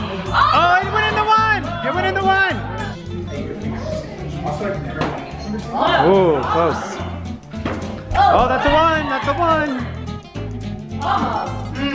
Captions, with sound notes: (group cheers) Oh, he went into one, he went into one! Ooh, close. (group cheers) Oh, that's a one, that's a one!